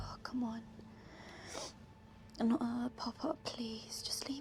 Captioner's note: sniffs